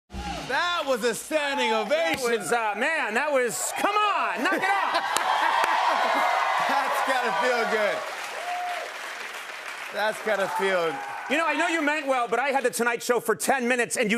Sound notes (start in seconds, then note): 5.2 cheers and applause; 8.6 applause